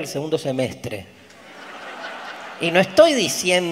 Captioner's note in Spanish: Audience laughs loudly